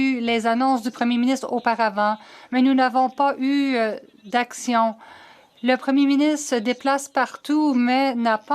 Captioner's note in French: voix de l'interprète